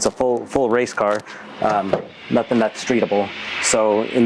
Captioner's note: door opening